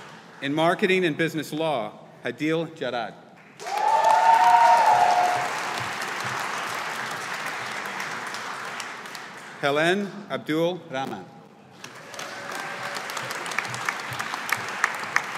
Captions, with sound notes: In Marketing and Business Law, Hadeel Jarad. (AUDIENCE APPLAUDING) Helan Abdul Rahman. (AUDIENCE APPLAUDING)